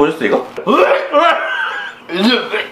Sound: throwing up sounds

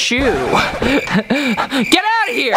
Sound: crickets chirping

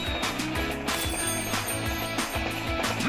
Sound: bell ringing

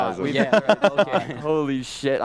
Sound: laughter

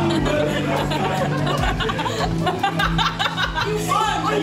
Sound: laughing; laughing intensifies; someone shouting

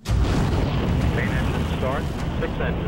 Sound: space ship engine fires up

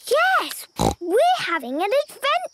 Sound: snort

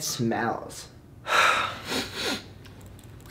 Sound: sigh; sniffing

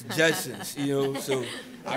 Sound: laughter

